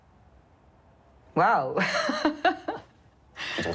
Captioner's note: laughs